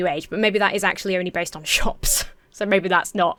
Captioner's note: wheezes